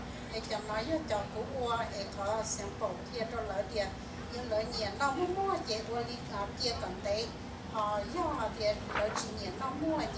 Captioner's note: speaking in foreign language